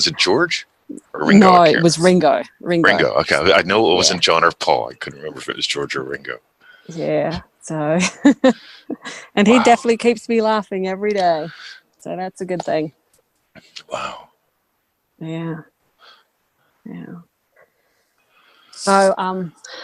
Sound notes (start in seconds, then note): 8.0 chuckles